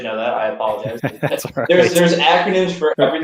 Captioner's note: laughter